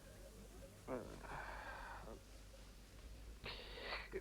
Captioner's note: Rothrar groans